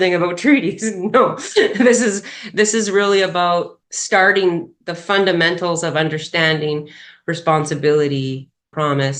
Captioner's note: laughs